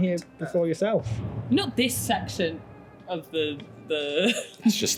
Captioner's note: rumbling in the distance